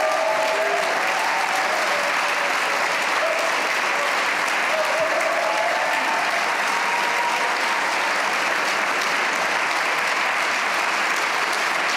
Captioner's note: cheers and applause